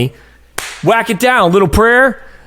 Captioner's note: hands smack